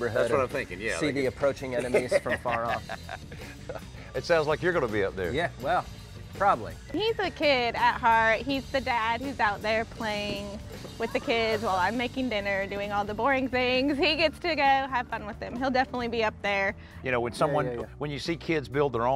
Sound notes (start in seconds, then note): 1.7 laughs